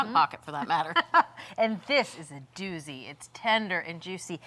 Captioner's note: laughs